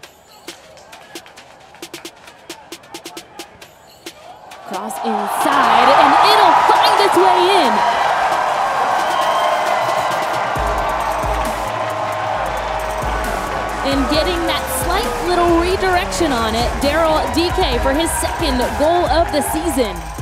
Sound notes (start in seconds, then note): 7.9 crowd cheering